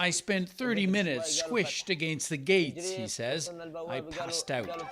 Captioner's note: speaking alternate language